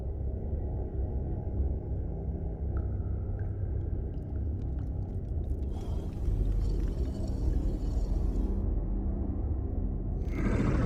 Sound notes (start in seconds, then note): 5.6 growl